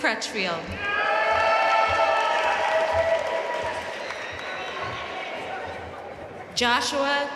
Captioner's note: audience cheering and applauding